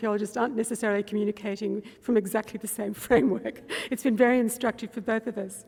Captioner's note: laughs